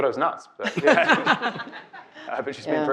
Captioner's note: all laughing